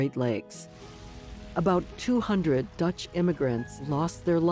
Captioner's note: flames burning